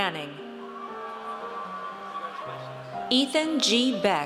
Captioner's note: audience cheers